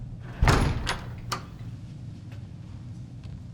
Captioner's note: door thudding